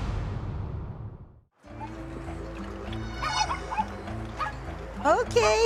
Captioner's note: chickens clucking